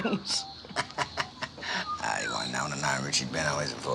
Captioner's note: laughing